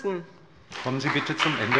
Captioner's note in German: Beifall bei dem BÜNDNIS 90/DIE GRÜNEN und der CDU